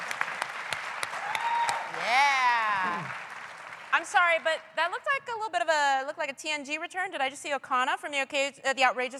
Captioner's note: applause